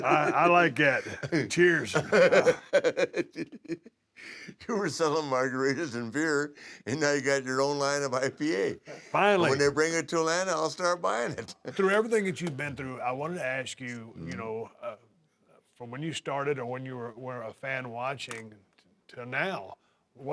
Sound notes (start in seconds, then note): 0.0 laugh